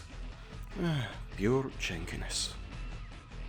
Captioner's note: sigh